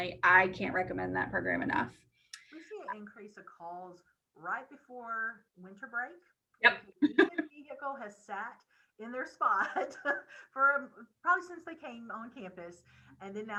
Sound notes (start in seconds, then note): 7.0 chuckles